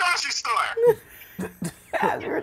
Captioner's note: laughing